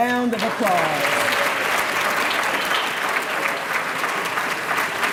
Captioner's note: applause